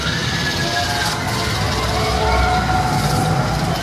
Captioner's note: dramatic music; guests squealing